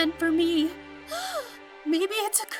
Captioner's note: gasp